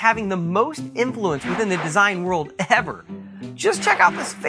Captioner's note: swish